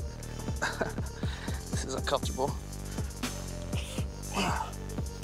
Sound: chuckles; slow, thumping music

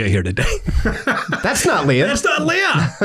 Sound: laughs

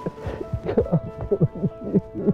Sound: cries

